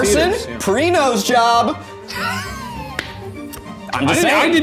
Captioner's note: laughing